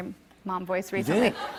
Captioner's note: laughter